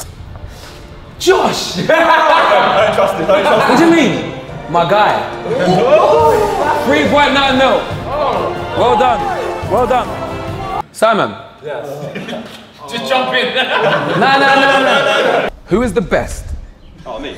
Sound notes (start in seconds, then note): 1.7 group laughs